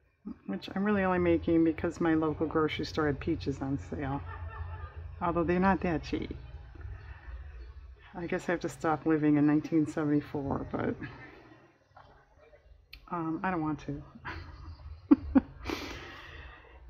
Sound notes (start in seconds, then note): 14.2 laughs